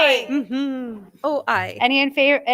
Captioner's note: member chuckling